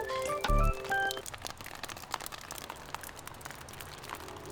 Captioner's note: raindrops dripping